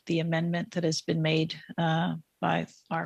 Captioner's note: speaking French